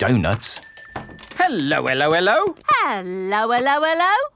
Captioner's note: bell rings